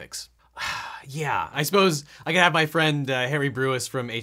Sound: sighs

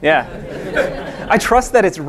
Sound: audience laughing

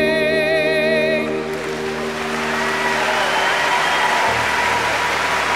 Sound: audience applauding

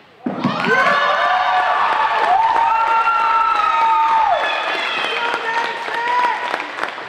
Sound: crowd Cheering

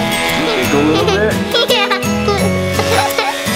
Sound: laughs

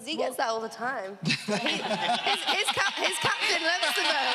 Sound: laughing

